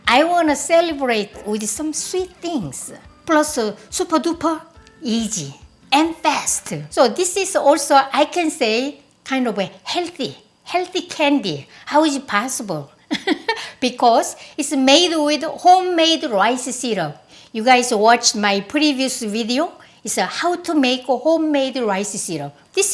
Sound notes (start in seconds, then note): 13.1 chuckling